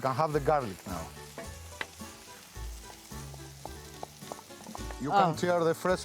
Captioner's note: sizzling